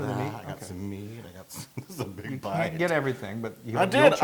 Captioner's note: laugh